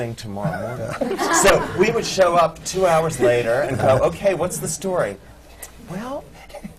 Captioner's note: laughter